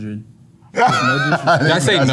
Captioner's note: laughs